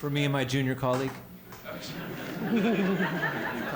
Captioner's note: laughter